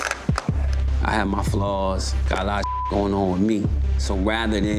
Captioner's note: beep